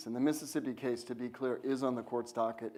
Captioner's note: none